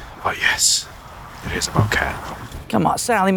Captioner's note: none